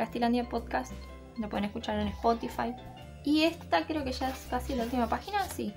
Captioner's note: in spanish